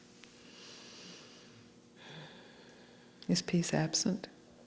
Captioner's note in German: seufzt